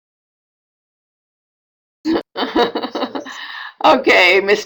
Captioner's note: chuckle